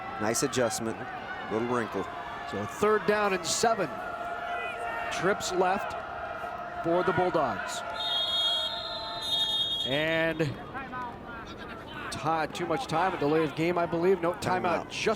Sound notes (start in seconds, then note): 7.9 whistle blows